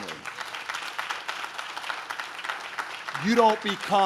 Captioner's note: audience claps